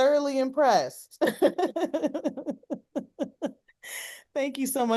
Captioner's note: both laughing